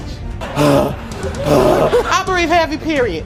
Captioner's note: pants